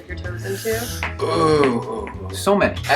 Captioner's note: inhales